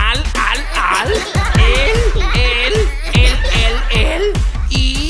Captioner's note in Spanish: Risas